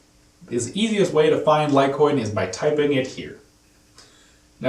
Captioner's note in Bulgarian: на английски